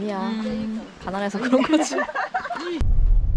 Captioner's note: laughing through tears